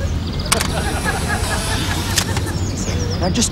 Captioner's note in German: Klicken